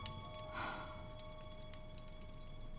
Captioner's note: sighs; romantic music ends